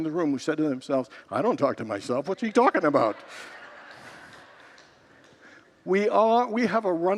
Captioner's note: congregants laugh